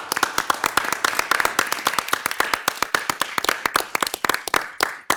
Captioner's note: audience applauding